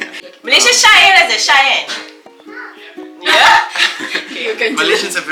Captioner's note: laugh